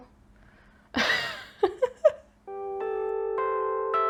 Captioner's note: laughs as music fades in